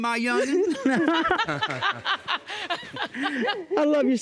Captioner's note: judge lake laughing